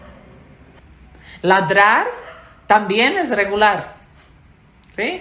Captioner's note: bark